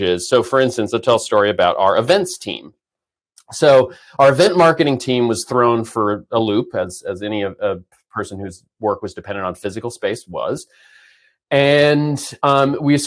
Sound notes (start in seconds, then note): none